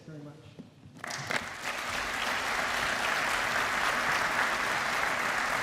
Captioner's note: applause